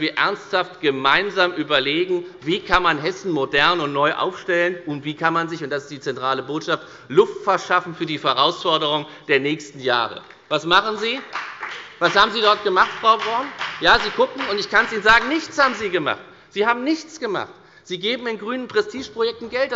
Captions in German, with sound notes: ernsthaft gemeinsam überlegen, wie man Hessen modern und neu aufstellen kann und wie – und das ist die zentrale Botschaft – man sich Luft verschaffe kann für die Herausforderungen der kommenden Jahre. (Beifall bei der FDP) Was machen Sie jedoch? Was haben Sie überhaupt gemacht? Ich kann es Ihnen sagen. Nichts haben Sie gemacht. Sie geben Geld aus für grüne Prestigeprojekte.